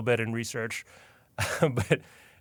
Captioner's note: chuckles